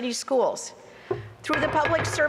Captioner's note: clattering